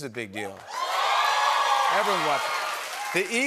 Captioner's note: cheering and applause